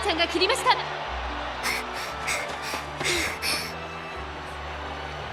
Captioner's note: huff